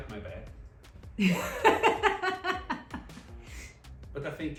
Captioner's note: laughs